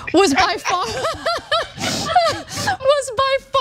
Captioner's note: laugh